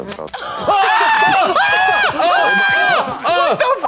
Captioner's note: Trixie shrieks; Katya howls